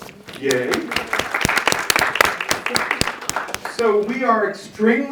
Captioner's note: audience applauding